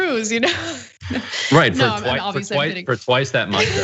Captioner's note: laugh